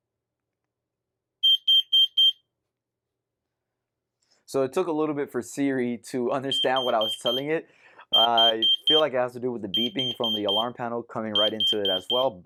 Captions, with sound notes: [BEEPING] So it took a little bit for Siri to understand what I was telling it. [BEEPING] I feel like it has to do with the beeping from the alarm panel coming right into it as well.